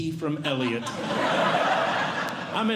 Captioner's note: audience Laughing